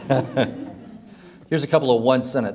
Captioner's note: laughs